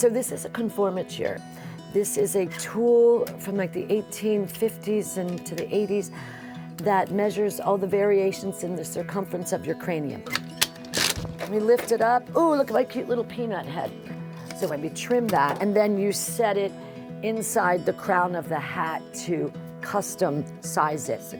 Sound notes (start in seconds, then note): 10.2 conformateur clicking